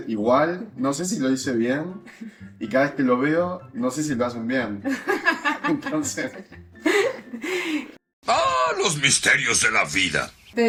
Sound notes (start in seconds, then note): 7.5 laughs